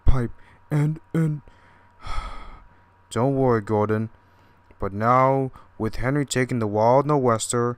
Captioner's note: sigh